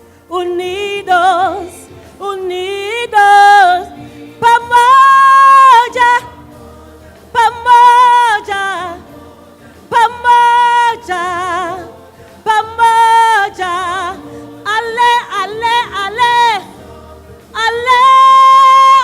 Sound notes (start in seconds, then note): 4.7 foreign Language